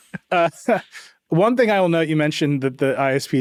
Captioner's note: chuckles